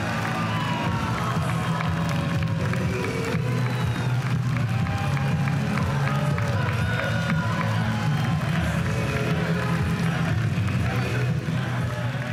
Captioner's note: applause and cheering